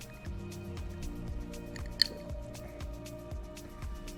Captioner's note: ice clinks